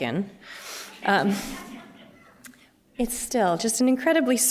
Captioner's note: laughter